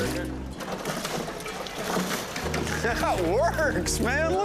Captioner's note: laughing